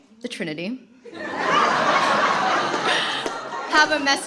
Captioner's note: laughter